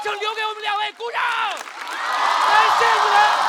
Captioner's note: applause